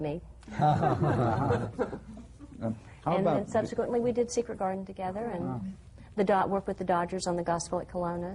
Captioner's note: laughter